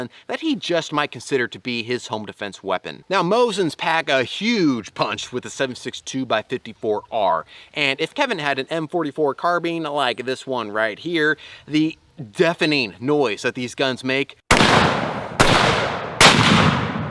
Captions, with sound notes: that he just might consider to be his home defense weapon Now Mosin's pack a huge punch with the 7.62x54R and if Kevin had an M44 carbine like this one right here, the deafening noise that these guns make (Gunshots)